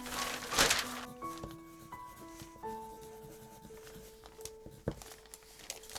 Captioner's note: loud paper rustling; pencil gently scratching